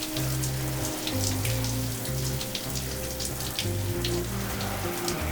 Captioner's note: water splashing continues